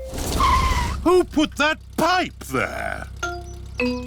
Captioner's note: tires screech